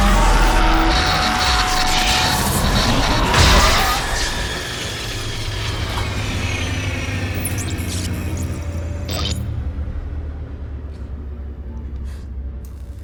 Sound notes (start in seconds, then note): 0.0 static crackling; 5.9 electronics powering down